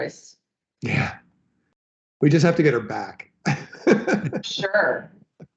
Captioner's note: laughs